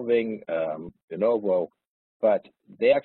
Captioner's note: audio distorts